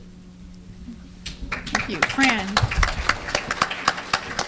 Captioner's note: applause